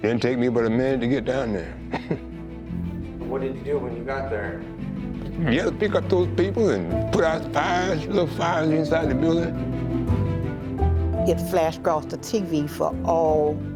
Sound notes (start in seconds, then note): 1.8 chuckles